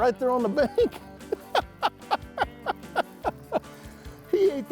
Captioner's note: laughing